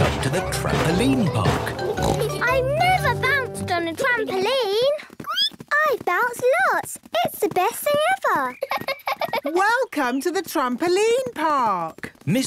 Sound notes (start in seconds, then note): 5.5 squeaks; 8.5 giggles